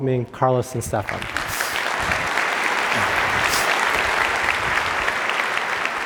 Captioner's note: audience applauding